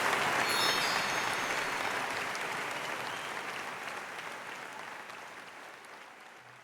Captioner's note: audience applauding; tinkling tune